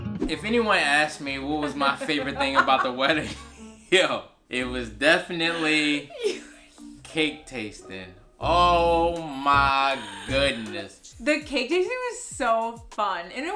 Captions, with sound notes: - If anyone asked me, what was my favorite thing about the wedding, (laughs) yo, it was definitely cake tasting. Oh my goodness. - The cake tasting was so fun.